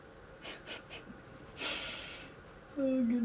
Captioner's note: laughs